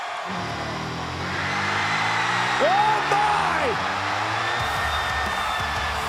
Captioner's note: applause